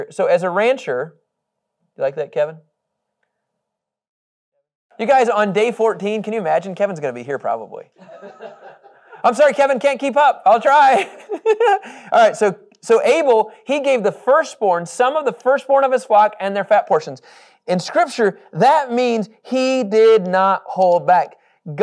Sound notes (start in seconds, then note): 11.7 laughing